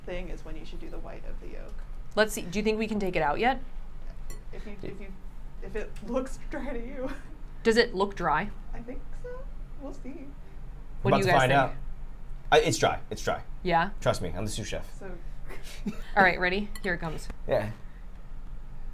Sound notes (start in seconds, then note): 7.2 laughs